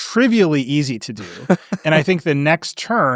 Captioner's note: laughing